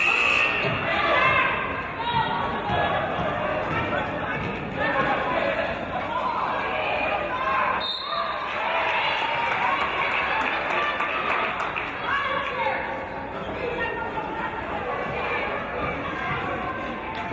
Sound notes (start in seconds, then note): 0.0 buzzer; 7.7 referee's whistle